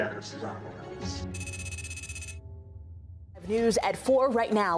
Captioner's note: text clicking